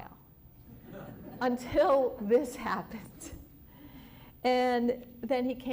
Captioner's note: laughter